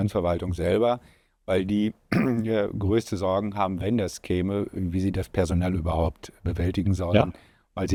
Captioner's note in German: räuspern